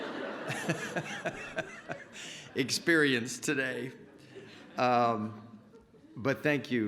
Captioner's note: laughter